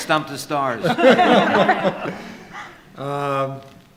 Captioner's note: laughs